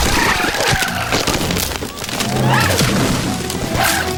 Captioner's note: shells breaking